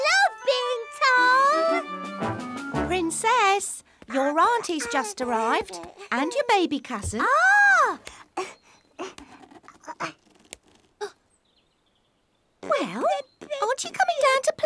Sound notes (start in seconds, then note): 7.2 exclaims; 12.1 gasps